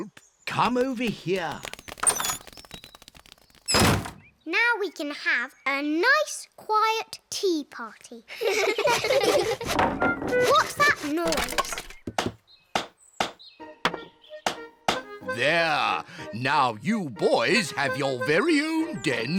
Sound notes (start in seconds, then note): 7.8 clattering; 8.3 all laugh